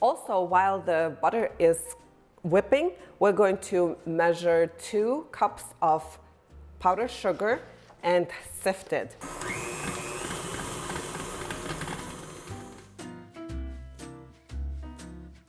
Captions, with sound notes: Also, while the butter is whipping, we're going to measure two cups of powdered sugar and sift it. (mixer growling) (lively music)